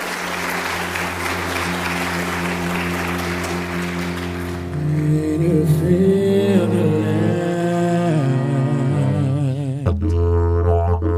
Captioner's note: applause